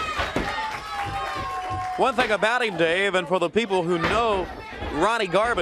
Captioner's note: crowd cheering